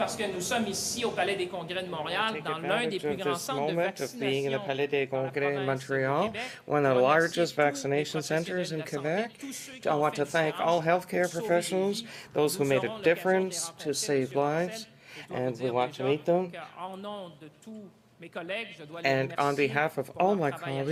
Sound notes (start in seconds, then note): 3.6 speaking French